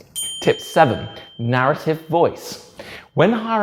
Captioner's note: bell dings